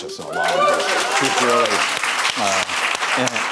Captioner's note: applause